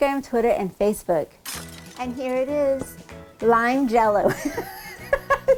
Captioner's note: laughing